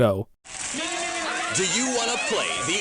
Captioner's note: people cheering